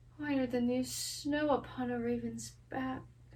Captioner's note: none